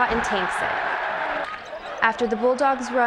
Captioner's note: cheering